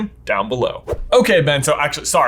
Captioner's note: air whooshing